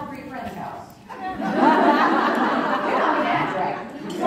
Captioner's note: crowd Laughing